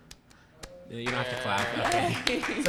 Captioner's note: applause